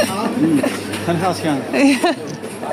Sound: laughter

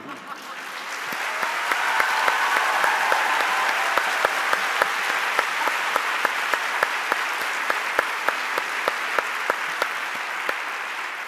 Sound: cheers and Applause

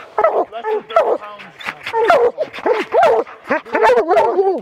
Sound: dogs barking

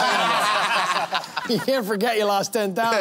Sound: laughter

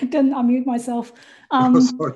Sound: laugh

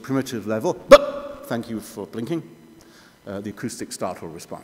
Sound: bah!

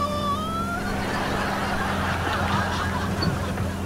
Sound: laughing

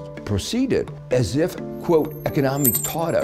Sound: coins chiming

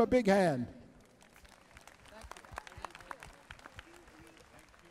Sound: applause

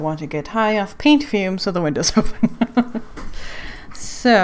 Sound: laughs

